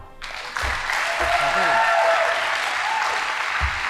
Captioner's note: audience applauding